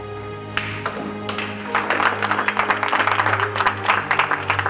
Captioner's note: audience claps